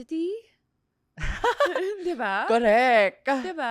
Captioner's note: laughs